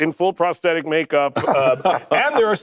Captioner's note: laughter